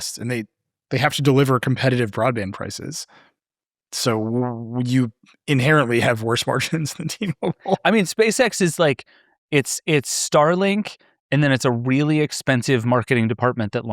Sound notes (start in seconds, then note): 7.7 laughing